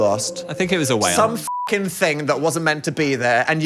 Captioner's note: beep